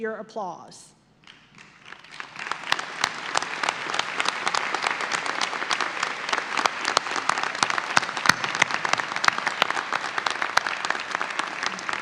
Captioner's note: audience applause